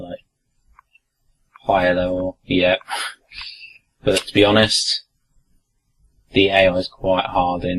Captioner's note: laugh